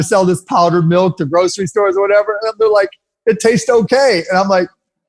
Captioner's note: none